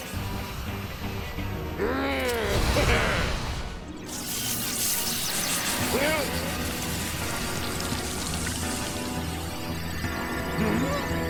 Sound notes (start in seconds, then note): 1.8 grumbling; 2.9 giggles